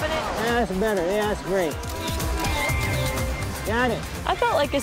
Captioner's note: camera snaps